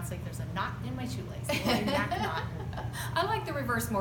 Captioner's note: laughs